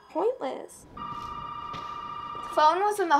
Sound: phone ringing

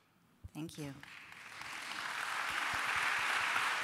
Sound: applause

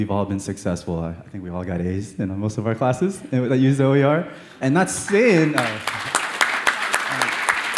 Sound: clapping

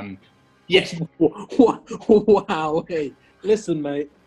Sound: scoffing

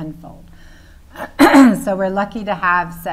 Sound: clears throat

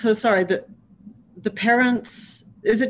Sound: none

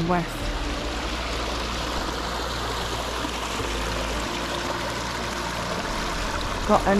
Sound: rushing water

